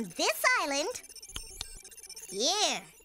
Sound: clicking

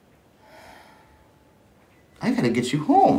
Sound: sighing

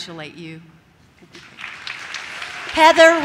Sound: audience claps

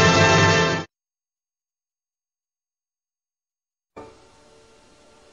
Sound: silence

